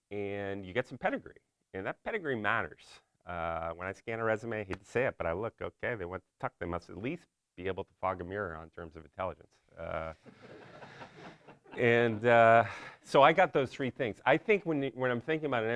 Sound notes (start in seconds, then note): 10.3 audience laughs